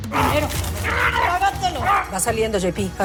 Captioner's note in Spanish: Exclamaciones